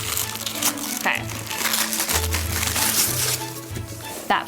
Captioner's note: wrapper crinkling